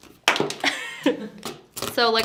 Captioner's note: laughs